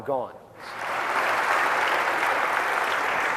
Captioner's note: applause